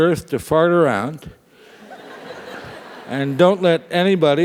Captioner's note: laugh